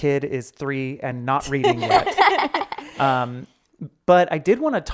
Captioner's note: laughing